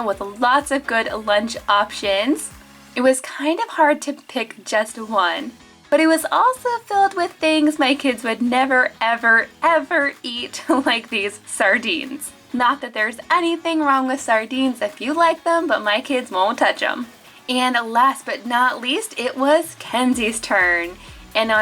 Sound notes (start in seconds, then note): 10.7 laughing